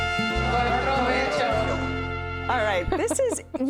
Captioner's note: all speaking in Spanish